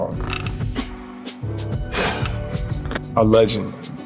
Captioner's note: sighs